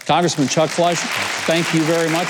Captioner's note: audience clapping